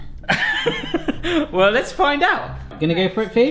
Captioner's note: laughs